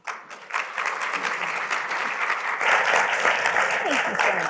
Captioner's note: applause